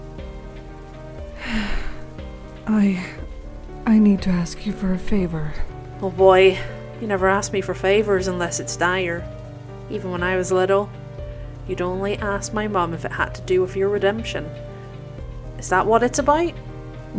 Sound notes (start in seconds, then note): 1.4 sigh